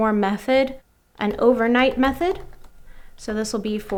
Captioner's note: typing